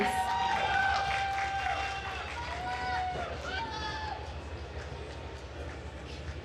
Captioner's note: attendees cheering and applauding